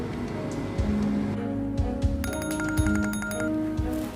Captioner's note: ring tone